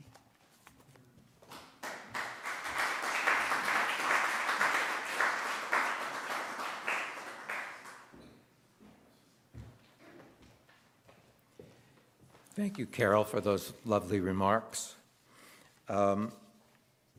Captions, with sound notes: (audience applauding) - Thank you Carol for those lovely remarks.